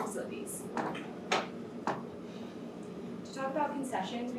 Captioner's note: chairs moving